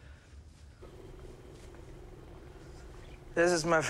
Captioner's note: fan purrs